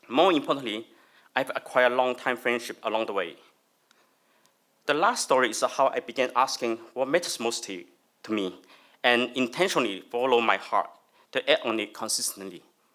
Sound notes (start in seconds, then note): none